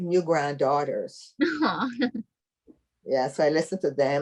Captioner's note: laughing